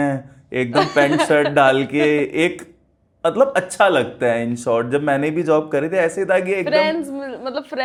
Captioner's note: laughs